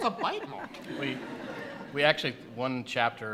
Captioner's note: laughter